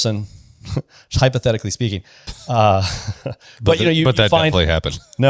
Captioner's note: laughs